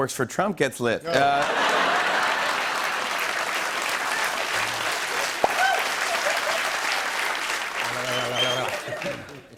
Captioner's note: laughter and applause